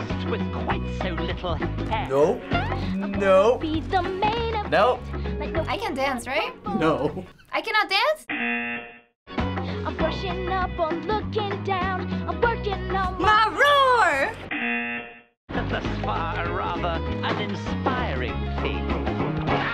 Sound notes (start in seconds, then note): 8.6 buzzer; 12.9 singing along; 14.6 buzzer